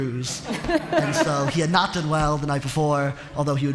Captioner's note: laughter